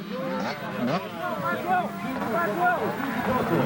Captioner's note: engine